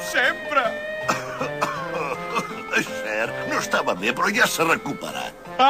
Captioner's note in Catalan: Tossir